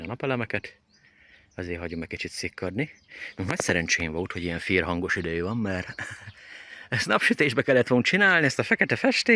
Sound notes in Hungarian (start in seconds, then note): 5.7 nevetés